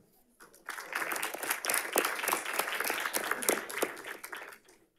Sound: audience applauding

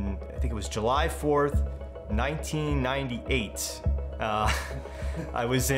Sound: chuckles

